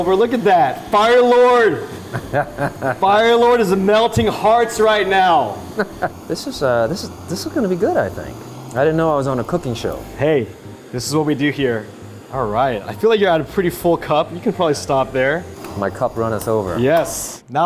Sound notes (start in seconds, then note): 2.0 laughing